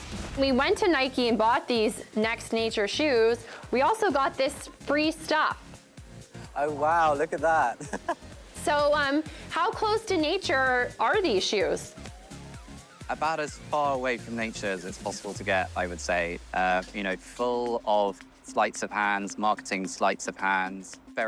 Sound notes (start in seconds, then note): 7.7 chuckles